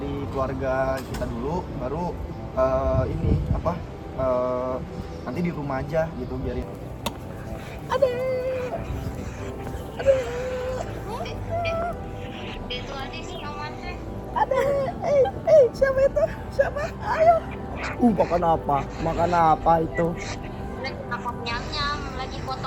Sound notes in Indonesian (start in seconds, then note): 14.2 tertawa; 14.7 menangis